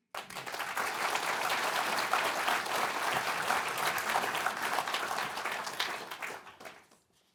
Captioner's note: applause